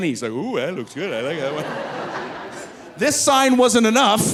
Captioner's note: audience laughing